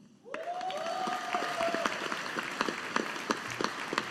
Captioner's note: audience applauding